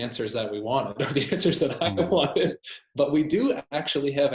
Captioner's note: laughs